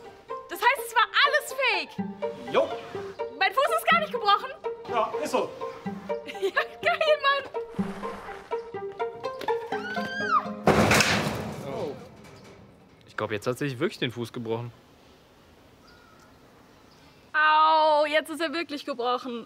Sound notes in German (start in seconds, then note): 7.6 Verspielte Musik; 10.0 Schrei, Krachen